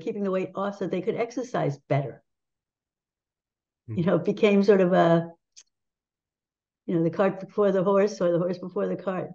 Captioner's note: laughs